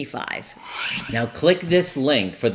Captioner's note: screen whooshes